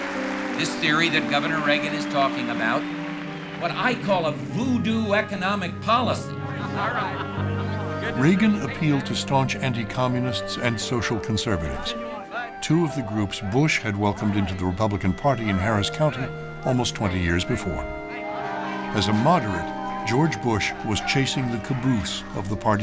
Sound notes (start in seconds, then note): 6.3 chatter and laughter